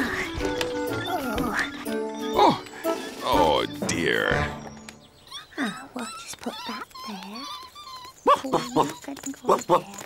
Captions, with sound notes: Oh! - The Princess wants to win. - (giggles) Ah, sit down, then. We'll see what we can do.